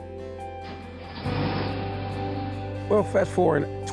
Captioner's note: car engine roars